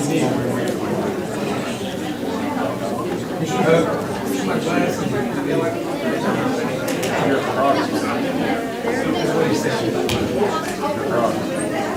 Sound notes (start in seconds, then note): 2.5 crowd talking indistinctly